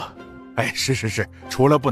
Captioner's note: sighs